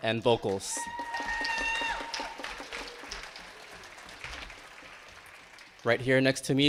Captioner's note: attendees clapping and cheering